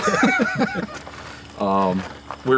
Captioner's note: both laugh